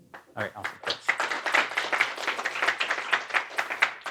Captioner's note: applause